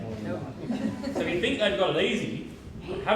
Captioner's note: laughter